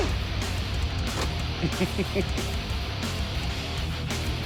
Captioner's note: laughing